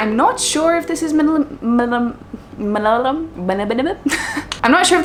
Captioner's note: laughs